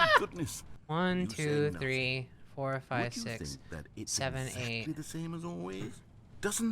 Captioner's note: laughs; pleading; narrator speaking underneath